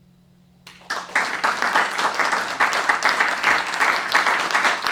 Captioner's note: applause